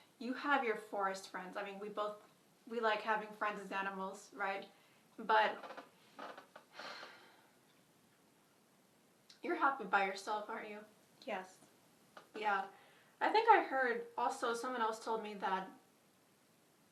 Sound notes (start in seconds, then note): 5.4 chair creaks; 6.7 sighs